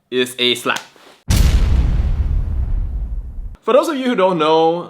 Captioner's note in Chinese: 繁荣